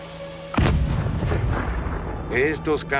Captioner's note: bomb explodes